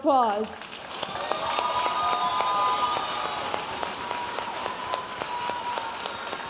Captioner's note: audience cheering and applauding